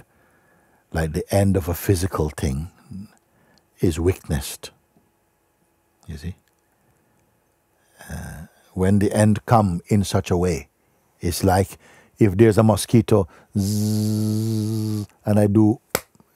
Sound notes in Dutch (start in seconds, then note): 13.6 maakt zoemend geluid; 15.9 klapt in handen